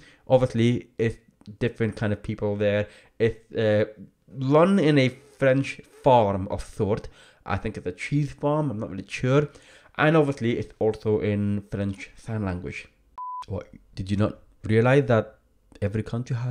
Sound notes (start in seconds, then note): 13.2 digital beep